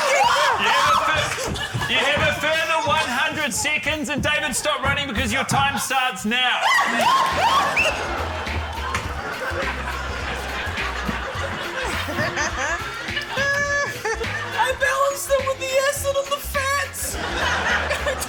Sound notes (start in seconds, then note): 0.0 shrieks; 9.1 shrieks; 10.2 laughter; 12.1 urzila laughs; 17.0 laughter